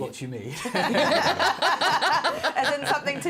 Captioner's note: laughter